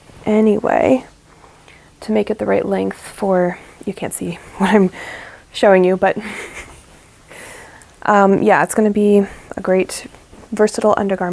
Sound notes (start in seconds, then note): 6.2 snickers